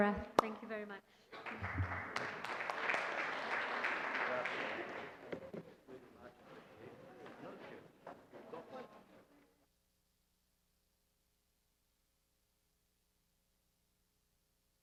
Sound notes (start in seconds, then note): 1.3 applause